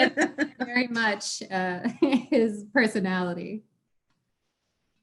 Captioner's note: group laughter